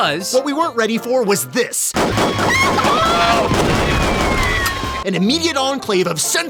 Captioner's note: gun shots and chicken bawks